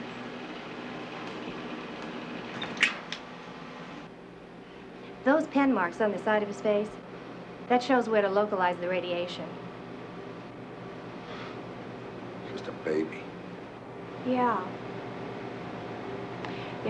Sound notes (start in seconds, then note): 11.2 exhales